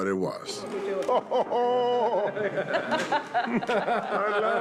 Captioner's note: laughing